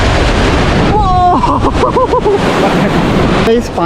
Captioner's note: excited Screams